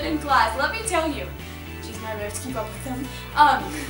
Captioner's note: whispers